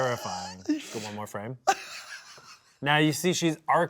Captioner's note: laughs